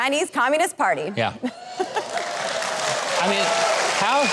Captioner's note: audience applauds